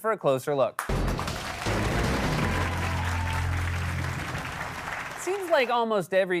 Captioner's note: cheering and applause